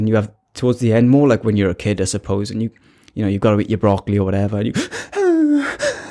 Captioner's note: sad boi crying noises